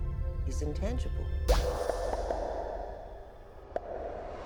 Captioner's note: popping